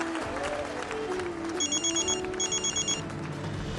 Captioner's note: mobile phone ringing